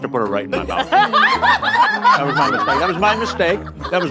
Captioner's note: all laughing